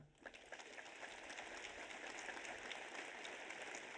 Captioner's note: audience applauds